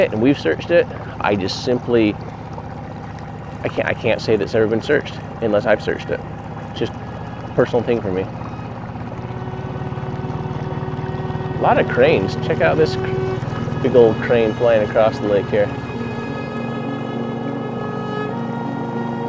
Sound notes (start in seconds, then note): 8.8 boat engine purring; 16.3 calming music